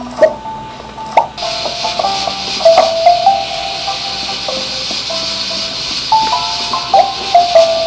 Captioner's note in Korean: 칙 - 칙 - 밥이 완성되어 가는 소리